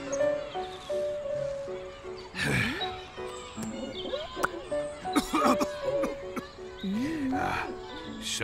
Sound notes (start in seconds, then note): 2.3 sighs; 3.7 smacks lips; 5.1 coughs and sighs